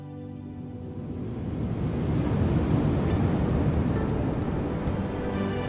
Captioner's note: wind blows dramatically